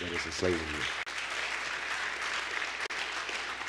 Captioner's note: applause